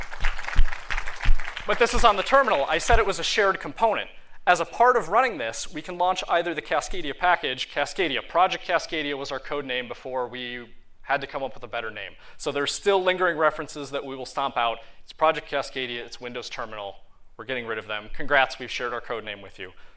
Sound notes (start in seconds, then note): 0.0 applause